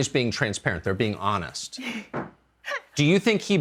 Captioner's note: chuckle